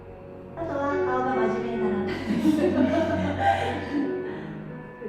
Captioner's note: laughs